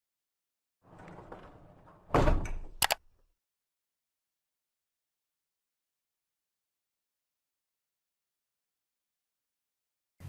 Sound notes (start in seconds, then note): 2.8 computer mouse clicking